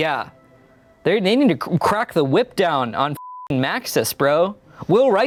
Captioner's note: beep